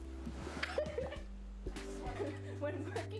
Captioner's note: laughing